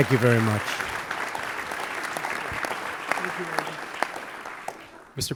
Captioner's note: applause